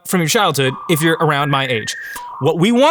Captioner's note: audio warbling